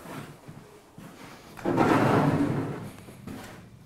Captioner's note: rumble